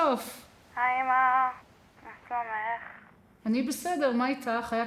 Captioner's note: speaking foreign language